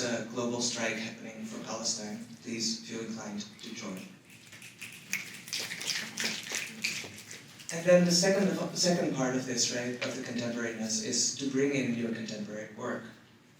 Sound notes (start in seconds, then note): 4.5 clapping